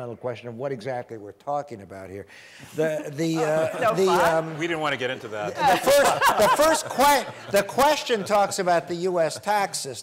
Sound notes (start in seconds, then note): 3.4 audience laughs